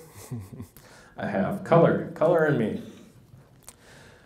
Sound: laughs

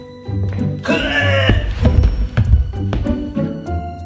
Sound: hurls voice

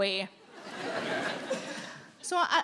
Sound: audience laughing

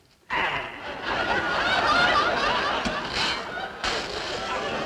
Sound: audience laughing

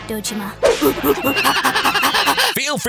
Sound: monkey screeches

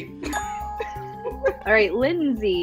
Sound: bell dings

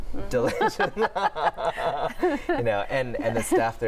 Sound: laughter

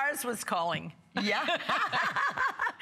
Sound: laughter

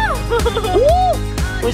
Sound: laughs

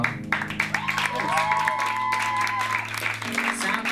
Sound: cheering and clapping

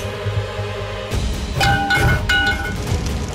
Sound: clanging

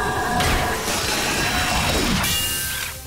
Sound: thudding

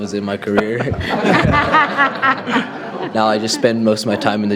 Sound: audience laughs

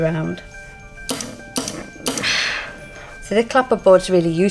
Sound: steam iron clacks and whooshes

